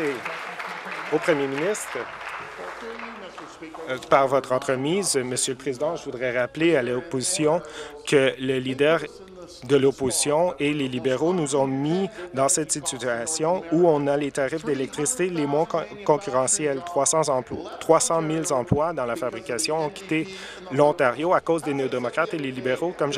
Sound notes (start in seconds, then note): 2.6 applause